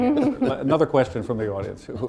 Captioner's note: laughter